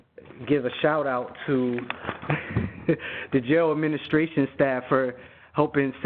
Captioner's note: chuckles